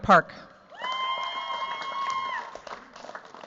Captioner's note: cheers, applause